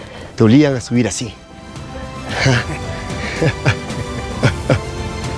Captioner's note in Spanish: risas